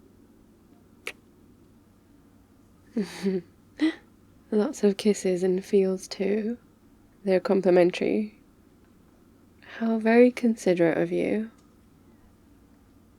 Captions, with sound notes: *kiss* *laughs* lots of kisses and feels too? they're complimentary? how very considerate of you